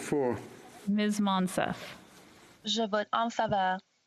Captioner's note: speaking French